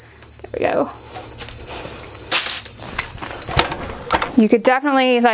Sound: machine beeps

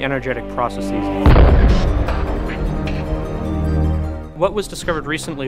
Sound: explosion Sound Effect

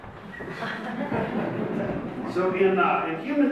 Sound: audience laughs

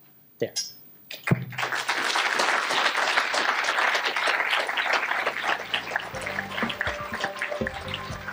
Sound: applause; closing music

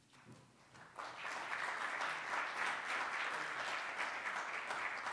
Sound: applause

